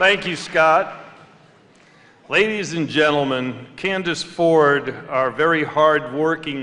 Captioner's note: applause